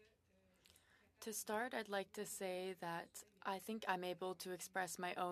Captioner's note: speaking French